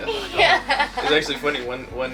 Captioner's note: laughs